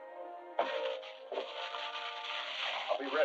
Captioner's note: papers rustling